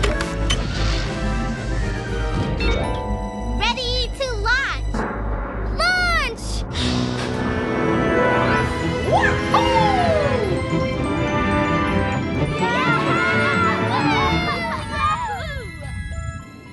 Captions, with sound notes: - READY TO LAUNCH. - LAUNCH! - WAHOO! [all cheering]